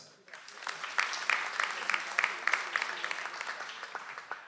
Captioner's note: audience applauds